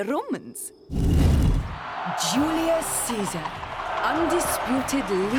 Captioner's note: crowd cheering